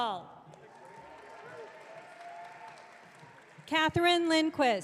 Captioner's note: audience cheering